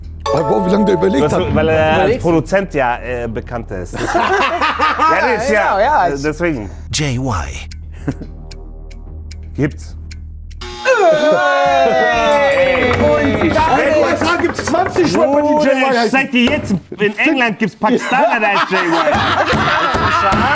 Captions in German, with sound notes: Wie lange der überlegt hat. Weil er als Produzent ja bekannt ist. (Gelächter) Deswegen. Gibt's. (Enttäuschte Rufe) In den USA gibt's 20 Rapper, die Jay-Y heißen. In England gibt's 'nen Pakistaner, die heißt Jay-Y. (Gelächter)